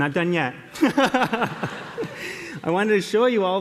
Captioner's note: laughter